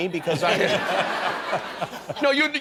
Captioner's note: laughter